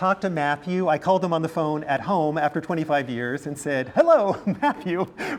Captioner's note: laugh